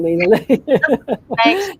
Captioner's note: laughter